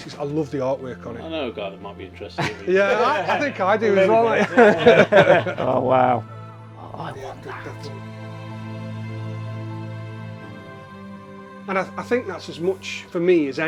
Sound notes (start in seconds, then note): 5.0 laughing